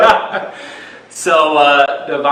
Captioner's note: both laugh